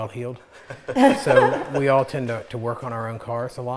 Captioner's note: laughs